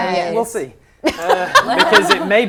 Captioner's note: laughing